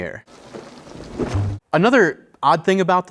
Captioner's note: body thudding